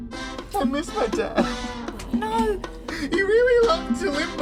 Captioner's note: Bob begins to cry